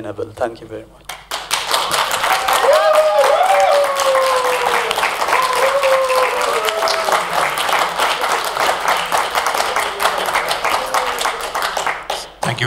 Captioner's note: applause